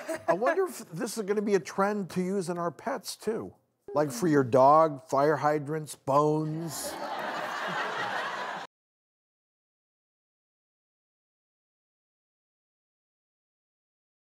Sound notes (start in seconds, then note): 6.7 audience laughing; 9.7 silence